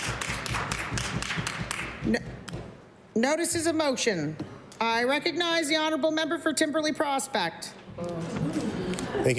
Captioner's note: applause